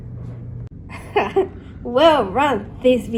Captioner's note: Theseus chuckles